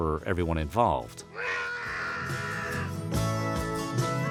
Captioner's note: man screams